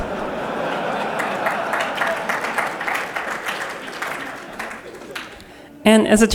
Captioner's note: laughter; applause